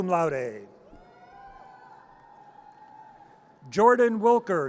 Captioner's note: audience cheers